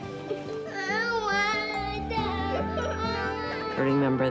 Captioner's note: crying